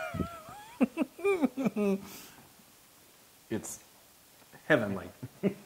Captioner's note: laugh; laugh